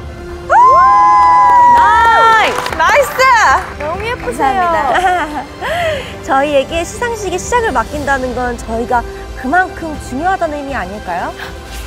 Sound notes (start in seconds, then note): 4.8 ahaha